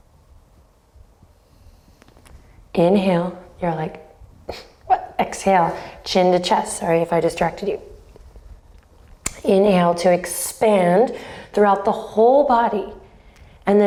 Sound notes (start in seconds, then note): 4.4 scoffs